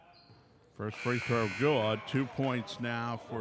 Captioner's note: buzzer buzzes